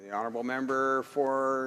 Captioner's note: applause